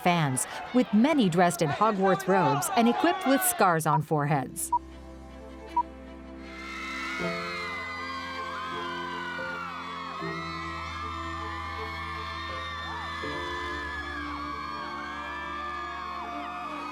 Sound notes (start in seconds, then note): 6.9 film beeping; 8.9 people screaming